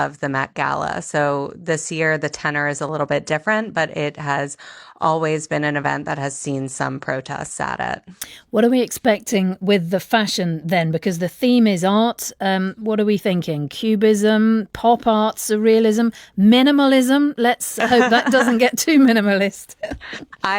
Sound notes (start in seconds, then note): 17.8 laughs